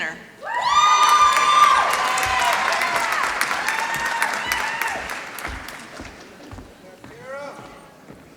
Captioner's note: applause